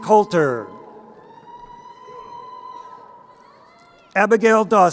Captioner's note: crowd cheering